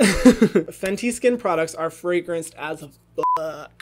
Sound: beep

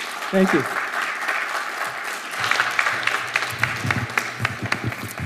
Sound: audience applauding

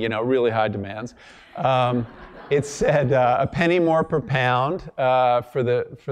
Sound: laugh

